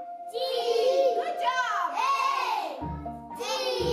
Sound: children talking

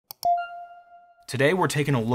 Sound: logo beeping

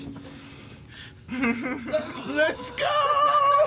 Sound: chuckles

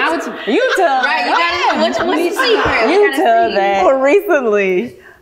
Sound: laughing

